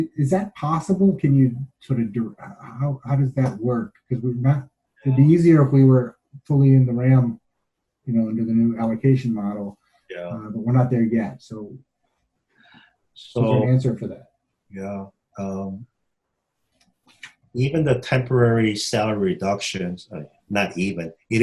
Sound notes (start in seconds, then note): 12.9 overlapping chatter